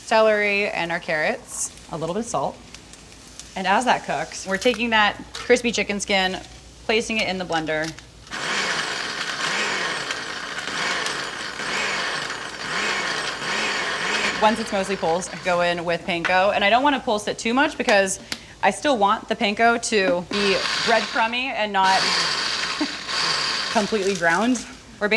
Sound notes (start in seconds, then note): 8.2 blender whirring